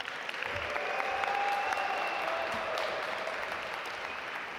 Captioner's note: audience applaud